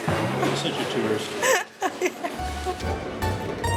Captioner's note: laughs